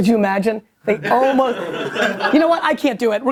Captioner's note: laughter